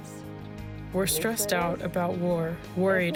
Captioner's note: through translator